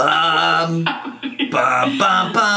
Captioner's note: laughing